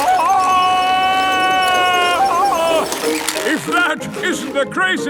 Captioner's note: yelling